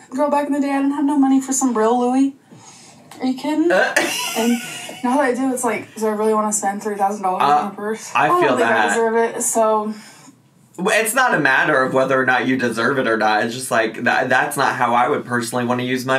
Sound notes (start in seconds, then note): 3.9 laughing